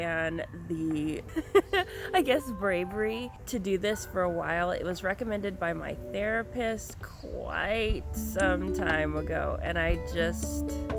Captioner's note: laughs